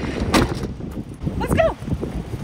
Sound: door thudding

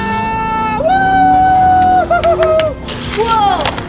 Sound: screams

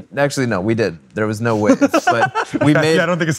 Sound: laughing

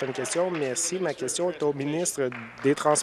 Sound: applause

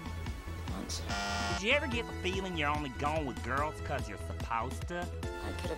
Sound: bzzzt

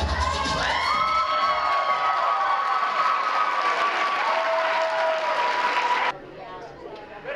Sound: cheers, screams and applause

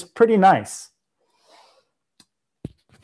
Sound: breath

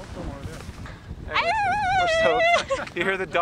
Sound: howling

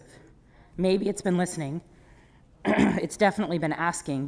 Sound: clears throat

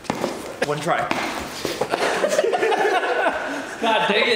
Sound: laughter

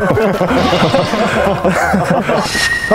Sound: the laughter of those who gave up

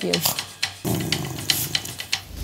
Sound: growl

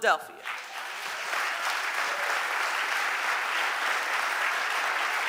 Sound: audience applauding

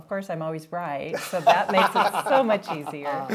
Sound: laughing

